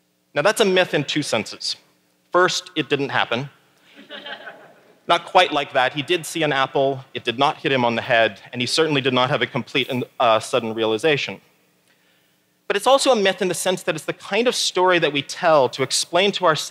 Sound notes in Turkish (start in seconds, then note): 3.9 Gülüşmeler